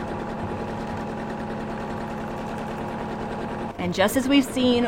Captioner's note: sewing machine hums